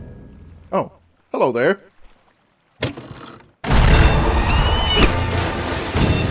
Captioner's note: screech